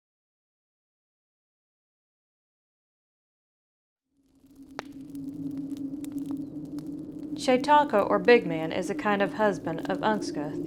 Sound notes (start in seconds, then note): 4.1 wind blowing and fire crackling; 8.0 speaks in foreign language